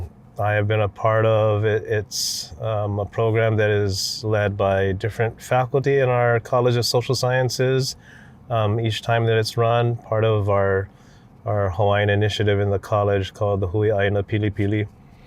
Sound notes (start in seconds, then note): none